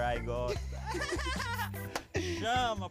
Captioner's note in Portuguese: Whindersson ri